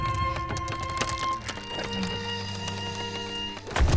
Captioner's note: heavy movement, wet creaking and cracking; massive footstep